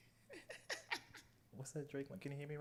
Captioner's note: laughs